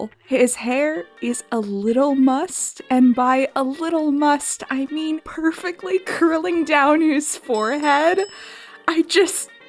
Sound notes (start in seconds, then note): 7.5 bell dinging; 8.7 high pitched and losing my shit